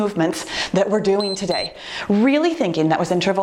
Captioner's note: timer beeps